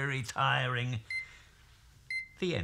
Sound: microwave beeps

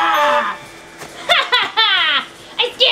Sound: laughs

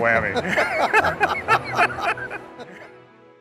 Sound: laughter

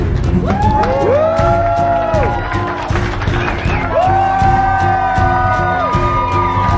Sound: crowd cheering and applauding

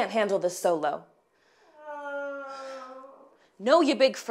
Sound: animal howling

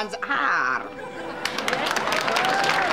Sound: applause

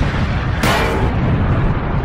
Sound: clang

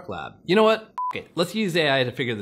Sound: beep

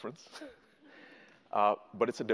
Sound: laughs

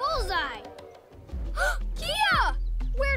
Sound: gasp

